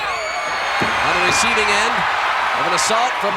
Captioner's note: audience cheering